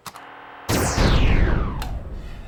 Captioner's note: explosion